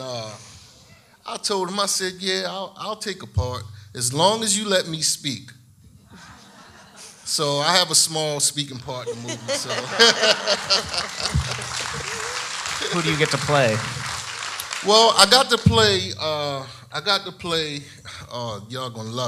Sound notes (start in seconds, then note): 6.2 audience laughs; 8.9 laughing; 12.1 audience applauding